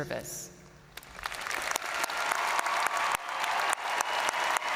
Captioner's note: audience cheering and applauding